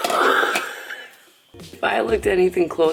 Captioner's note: laughing